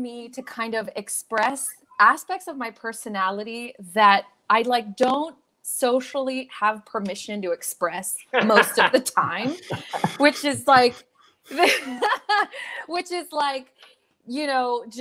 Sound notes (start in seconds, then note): 8.3 members laughs; 12.0 laughs